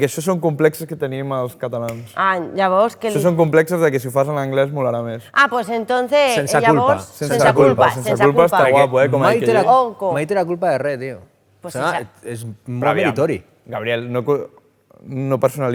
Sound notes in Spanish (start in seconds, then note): 9.6 irónicamente